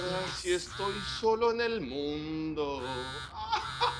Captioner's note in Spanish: Vibra el celular